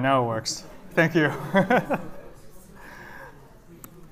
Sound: laughter

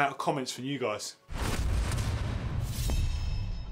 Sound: slam

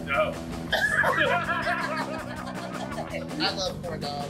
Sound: laughter erupts

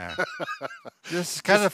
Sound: laughs

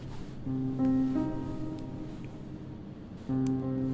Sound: shifting around in bed; lamp turned off

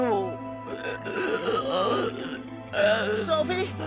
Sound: suffocates

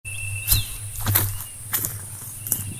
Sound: footsteps

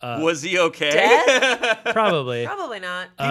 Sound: laughing

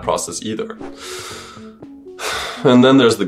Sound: sigh

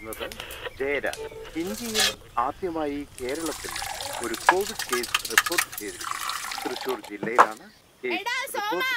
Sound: news on the radio

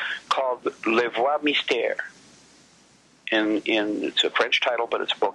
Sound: speaks French

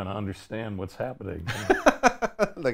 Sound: laughs

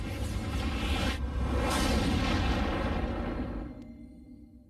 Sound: tornado halts

